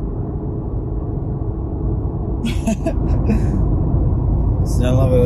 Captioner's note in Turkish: kahkaha